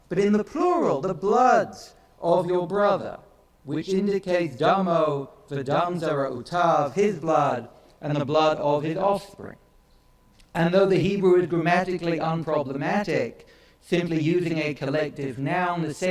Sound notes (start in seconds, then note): 4.9 speaks in foreign language